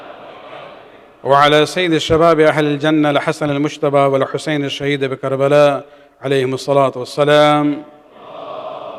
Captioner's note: arabic